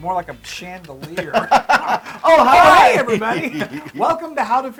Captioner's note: laugh